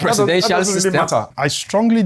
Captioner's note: laughs